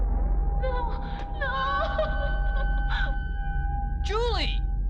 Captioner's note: crying